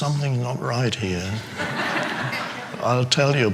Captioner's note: audience laughing